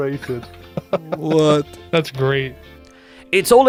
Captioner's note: laughs